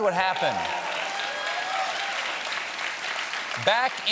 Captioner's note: applause